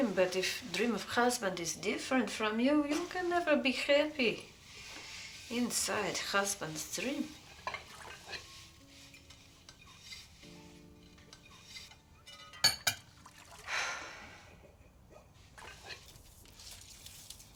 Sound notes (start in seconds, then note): 13.6 sighing